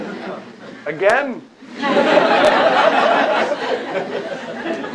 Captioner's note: laughter